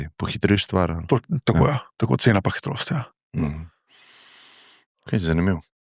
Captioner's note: coughing